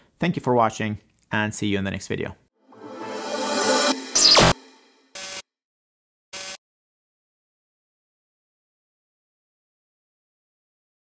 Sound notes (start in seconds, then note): 4.1 zapping